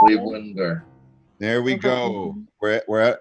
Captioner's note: timer beeps